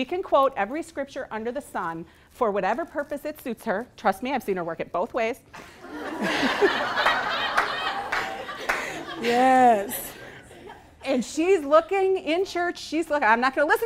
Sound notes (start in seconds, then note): 5.8 laughing